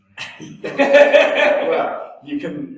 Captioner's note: both laugh